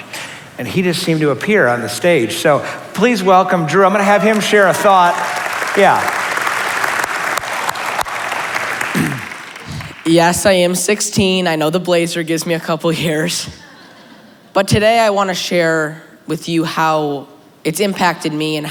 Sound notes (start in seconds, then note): 3.7 cheering; 3.9 applause; 8.9 clears throat; 13.6 laughter